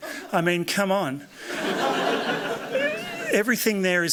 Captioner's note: laughter